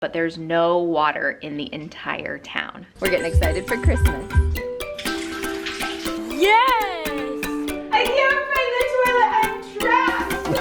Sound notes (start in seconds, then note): 4.4 cheerful music; 5.2 water sloshes